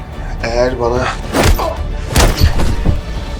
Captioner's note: kicks and hits